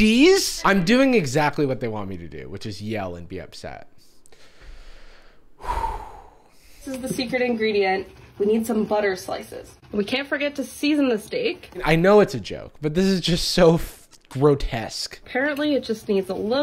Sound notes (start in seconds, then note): 4.2 deep breath